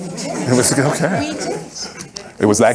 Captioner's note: audience laughing